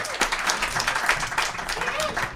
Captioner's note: applause